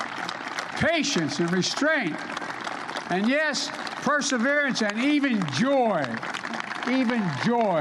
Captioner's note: applause